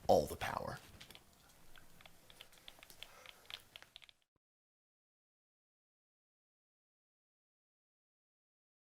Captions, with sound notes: all the power. [clicking of game controllers]